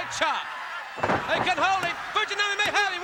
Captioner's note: body slamming